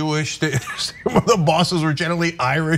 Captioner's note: laugh